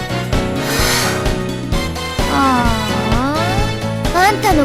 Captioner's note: sighing